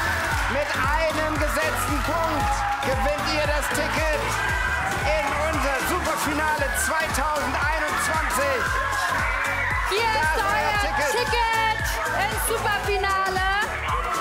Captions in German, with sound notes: Mit einem Punkt gewinnt ihr das Ticket in unser Superfinale 2021. *lauter Jubel* Hier ist euer Ticket ins Superfinale.